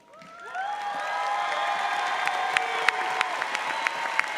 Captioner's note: audience applauds